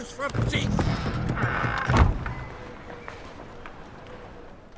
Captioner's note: door slams